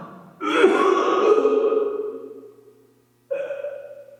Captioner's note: Jacob retching